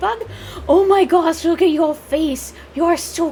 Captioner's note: gasp